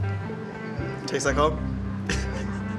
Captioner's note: laughs